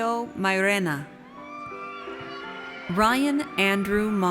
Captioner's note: audience cheers